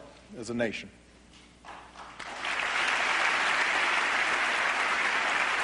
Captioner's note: applause